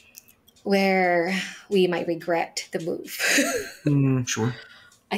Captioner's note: chuckles